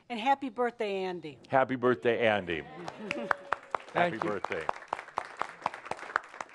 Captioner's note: some applause